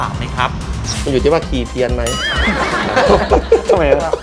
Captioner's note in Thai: เสียงหัวเราะ